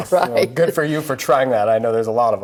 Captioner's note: laughing